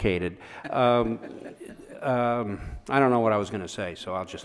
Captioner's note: laughs